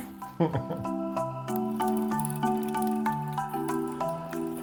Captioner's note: laughs